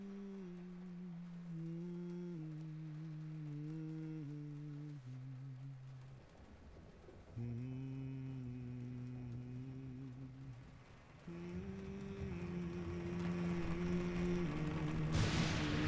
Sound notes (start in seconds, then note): 2.6 humming gentle tune; 12.2 rain patters harder; 13.8 humming grows louder